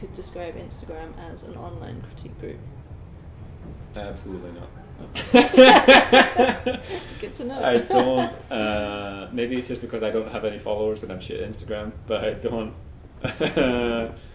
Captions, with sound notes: you could describe Instagram as an online critique group? D - Absolutely not, no. (both laugh) C - Good to know! D - I dont - maybe it's just because I don't have any followers and I'm shit at Instagram but I don't, ha ha -